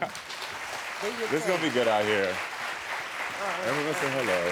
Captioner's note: laughs; crowd cheering